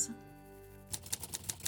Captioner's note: typing sounds